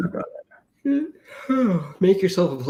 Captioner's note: yawns